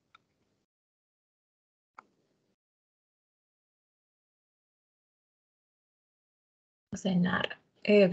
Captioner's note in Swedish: Tystnad